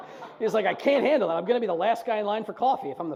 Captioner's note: audience laughs